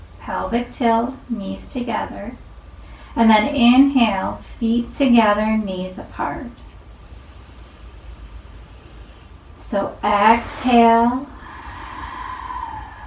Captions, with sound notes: Pelvic tilt, knees together, and then inhale, feet together, knees apart. [inhales] Exhale, [exhales]